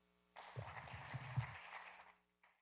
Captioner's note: applause